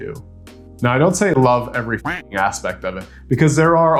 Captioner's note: duck quacking